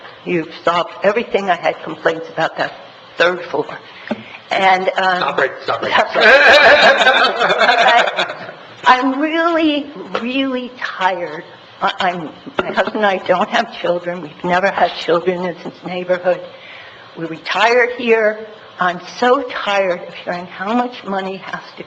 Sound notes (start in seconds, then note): 5.8 members laughing